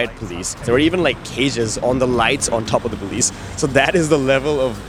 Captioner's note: car